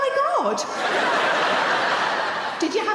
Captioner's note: audience laughs